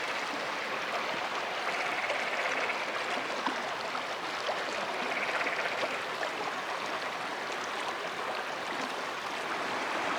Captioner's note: rushing water and frogs croaking